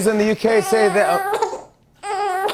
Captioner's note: crying